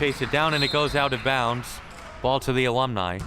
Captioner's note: whistle chirping